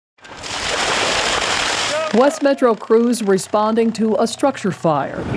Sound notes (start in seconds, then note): 0.2 water gushing